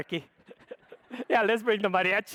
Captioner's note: audience laughs